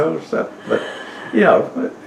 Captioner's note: laughter; laughs